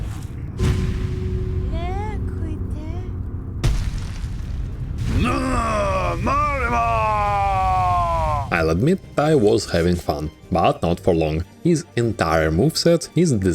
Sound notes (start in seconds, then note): 5.1 Zote sounds